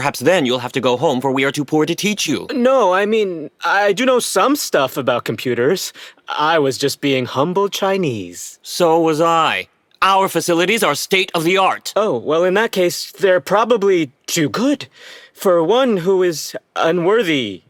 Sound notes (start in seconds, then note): none